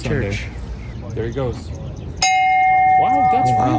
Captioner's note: bell ringing